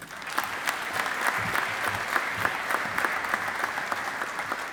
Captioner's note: audience applauding